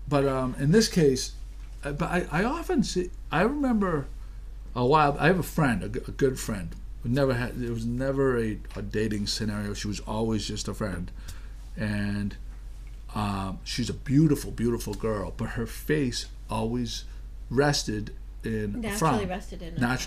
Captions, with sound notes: - [Voiceover] In this case, I often see, I remember, I have a friend, a good friend. There was never a dating scenario. She was always just a friend and she's a beautiful, beautiful girl but her face always rested in a frown. - [Voiceover] Naturally rested in a frown.